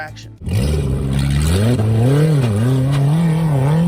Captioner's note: engine revving